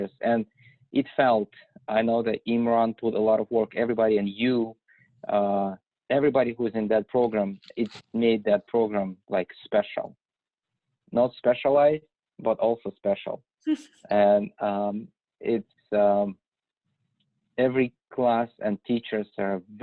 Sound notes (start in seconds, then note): 13.7 woman laughs